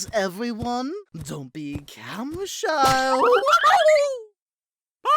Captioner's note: screams